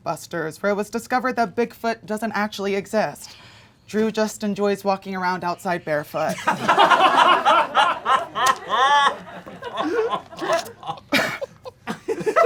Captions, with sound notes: where it was discovered that Bigfoot doesn't actually exist. Drew just enjoys walking around outside barefoot. (audience laughing)